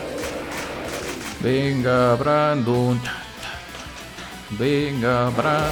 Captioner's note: imitates stadium chants